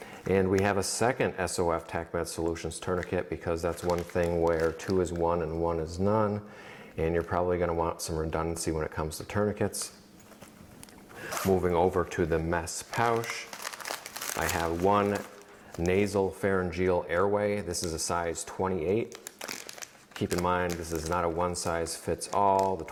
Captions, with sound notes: And we have a second SOF TacMed Solutions tourniquet because that's one thing where two is one and one is none. And you're probably gonna want some redundancy when it comes to tourniquets. Moving over to the mesh pouch, (paper rustling) I have one nasal pharyngeal airway. This is a size 28. Keep in mind this is not a one-size-fits-all.